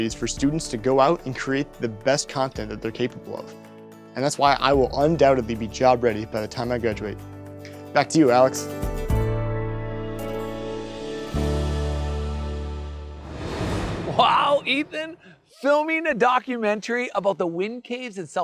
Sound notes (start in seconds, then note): 9.1 bright music; 13.0 graphics whooshing